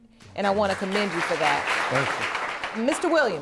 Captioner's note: audience clapping